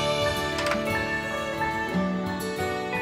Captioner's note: Door closing